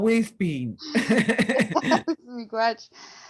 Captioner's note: laughter